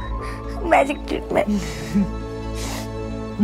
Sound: laughing

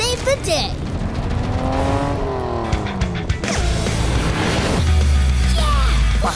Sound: exciting music; engine revving

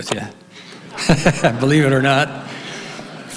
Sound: laughs

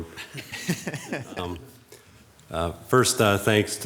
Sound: men laughing

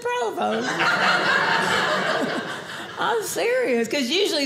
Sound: audience laughing

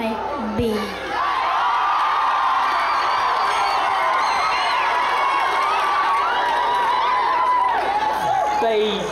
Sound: boisterous ongoing applause and cheering

